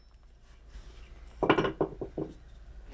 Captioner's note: dull knocking